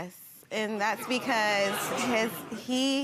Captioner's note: audience exclaiming